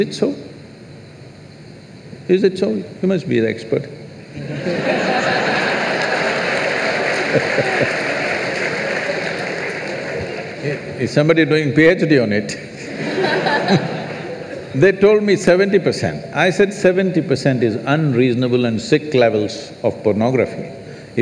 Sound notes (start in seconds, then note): 8.8 laughter; 12.7 few laughs